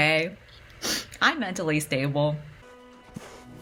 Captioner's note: sniffles